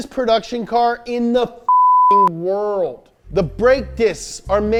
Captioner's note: beep